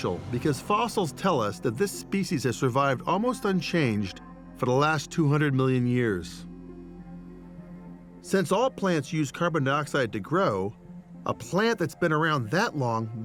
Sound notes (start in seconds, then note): none